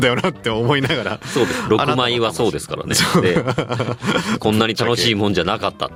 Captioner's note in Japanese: 笑い